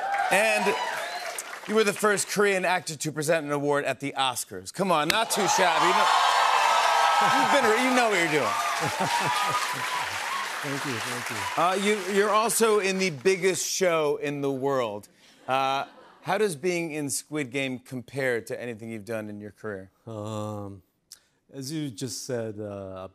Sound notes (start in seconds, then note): 6.0 applause; 8.5 chuckles